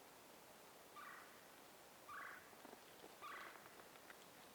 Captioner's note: bird chirps